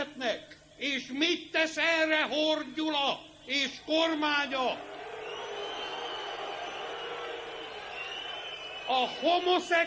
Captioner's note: booing